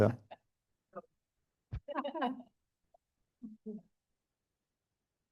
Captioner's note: chuckling